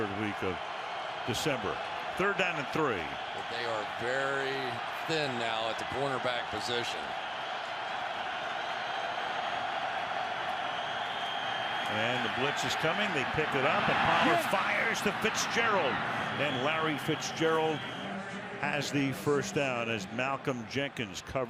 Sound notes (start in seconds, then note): 7.9 cheers